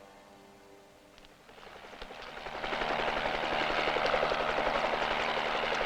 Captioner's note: helicopter blades whirring